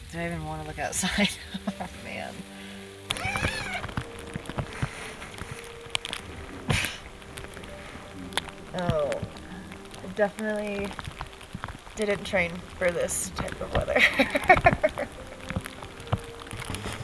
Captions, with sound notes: Do I even want to look outside? (laughs) Man. (zipper unzipping) Oh. Definitely didn't train for this type of weather. (laughs)